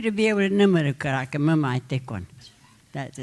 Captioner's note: speaking Comanche